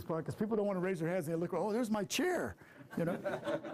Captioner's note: laughter